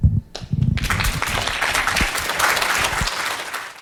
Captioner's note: audience applauds